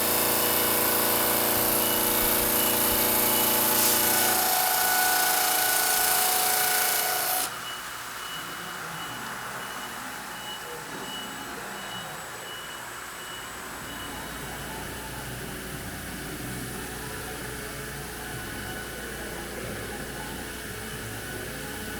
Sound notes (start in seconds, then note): 0.0 CNC machine rumbling; 8.0 machine beeping; 15.2 CNC machinery rumbling